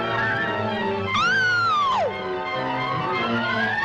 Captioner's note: agent screams